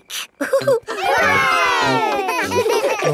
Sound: laughing; chuckles

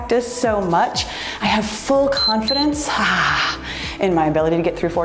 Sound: timer beeps

